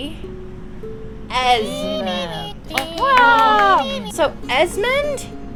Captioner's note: clapping